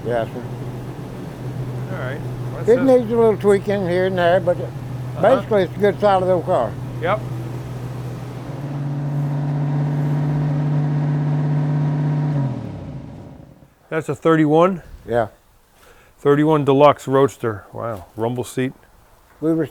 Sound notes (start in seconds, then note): 8.6 engine revving; 12.5 car turns off